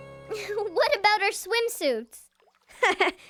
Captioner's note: sighing